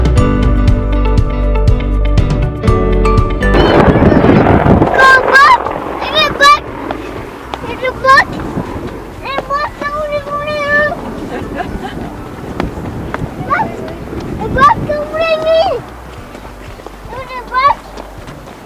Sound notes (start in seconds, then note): 3.7 helicopter noise; 4.9 child screaming of excitement